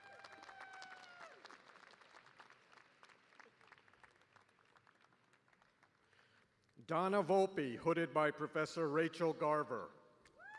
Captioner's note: cheers and applause